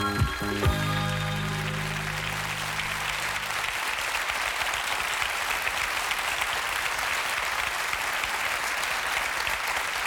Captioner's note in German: Applaus